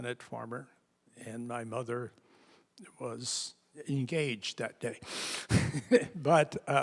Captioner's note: laughs